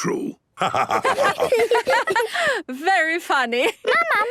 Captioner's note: laughter